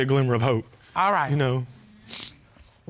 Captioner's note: sniffles